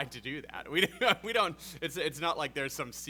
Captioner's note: laughs